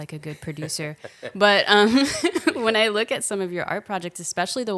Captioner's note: laughing